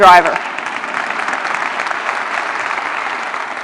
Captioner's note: applause